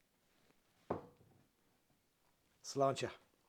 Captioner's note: bottle taps